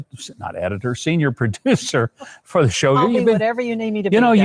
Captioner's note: laughs